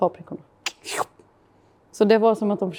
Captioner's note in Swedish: Swoop